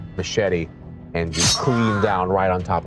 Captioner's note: blade slicing